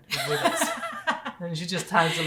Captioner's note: laughing